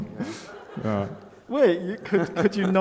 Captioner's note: laughing